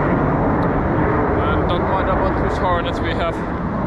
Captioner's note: jets